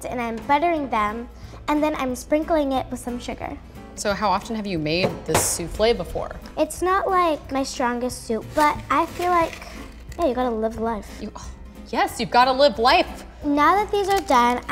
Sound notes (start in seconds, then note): none